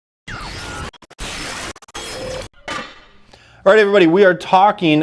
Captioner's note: static crackling